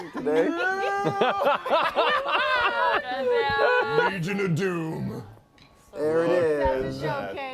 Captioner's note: laughing